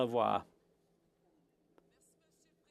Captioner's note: speaking French